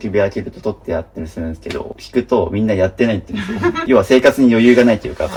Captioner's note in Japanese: 笑い